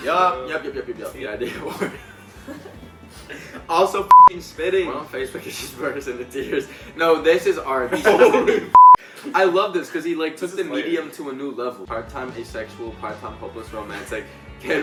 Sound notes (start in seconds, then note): 4.1 beep; 8.7 beep